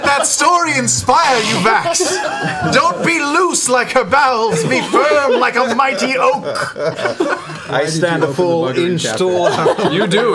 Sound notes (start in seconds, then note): 6.4 laughter